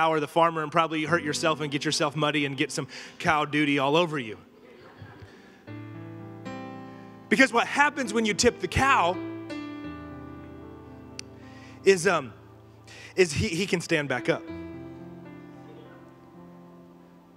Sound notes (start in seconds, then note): 4.6 congregation laughing